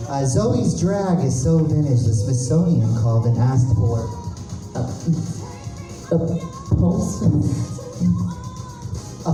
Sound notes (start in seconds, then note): 8.0 gulp